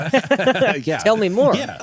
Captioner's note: laughing